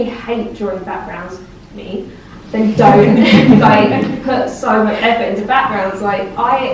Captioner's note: laughs